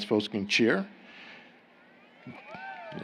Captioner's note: applause